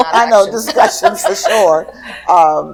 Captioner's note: laughter